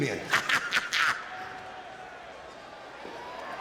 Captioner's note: laughs